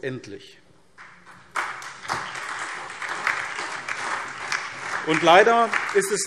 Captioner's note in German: Beifall SPD und DIE LINKE